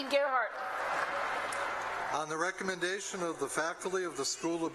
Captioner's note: applause